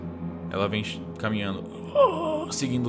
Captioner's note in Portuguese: Grunhidos